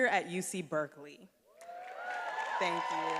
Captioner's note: attendees applauding and cheering